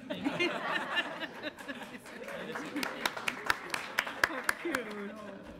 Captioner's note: audience laughs